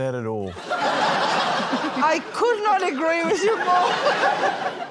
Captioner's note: laughter